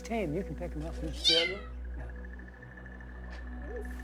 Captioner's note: alarmed meow